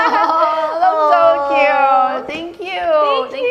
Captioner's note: happy noises